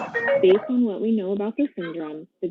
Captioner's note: object clattering in room